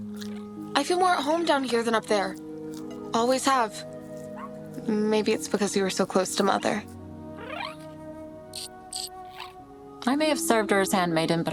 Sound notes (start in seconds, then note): 7.3 chittering